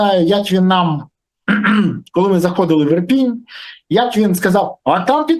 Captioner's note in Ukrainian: прочищення горла